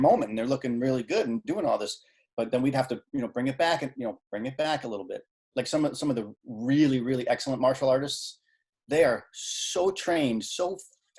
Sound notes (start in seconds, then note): none